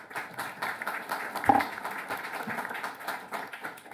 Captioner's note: applause